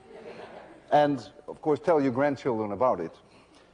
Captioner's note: laughter